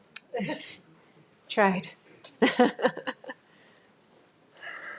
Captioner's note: laughs